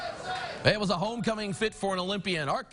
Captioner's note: cheers and chanting